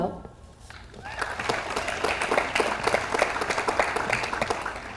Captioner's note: audience applauds